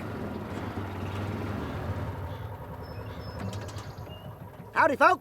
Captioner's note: car motor running; car motor stops